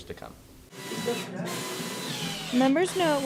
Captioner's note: drilling